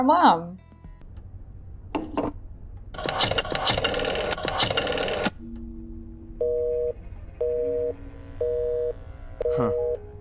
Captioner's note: occupied noise